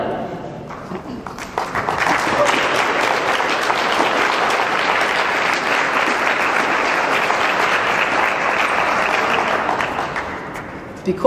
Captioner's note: clapping